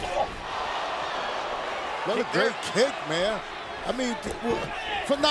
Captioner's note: applause